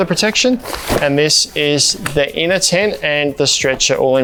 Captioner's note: canvas thudding to ground